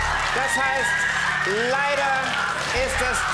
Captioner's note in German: Jubel